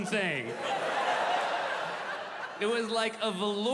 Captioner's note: audience laughing